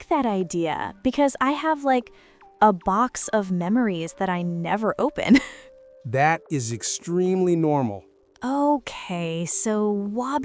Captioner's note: laughs